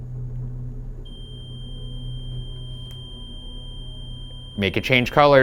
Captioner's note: REM pod screeching